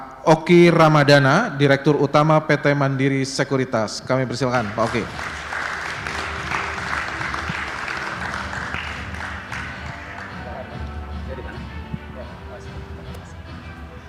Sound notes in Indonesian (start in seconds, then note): 4.5 tepuk tangan